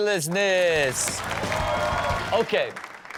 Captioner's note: audience cheers